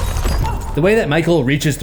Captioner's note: glass breaks